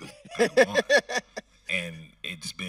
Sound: host laughing

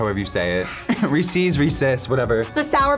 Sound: laughs

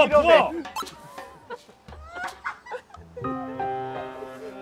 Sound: cry

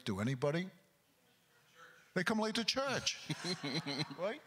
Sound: and Crowd chuckling

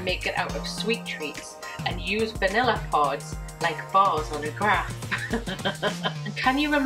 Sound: laughing

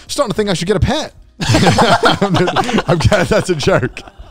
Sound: everyone laughs

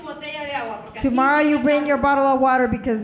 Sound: speaking in foreign language

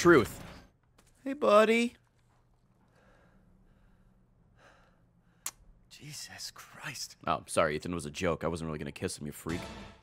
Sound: smooches

